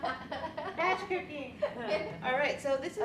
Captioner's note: women laugh